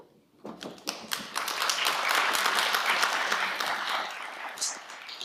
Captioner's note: audience applauding